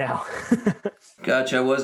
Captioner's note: laughing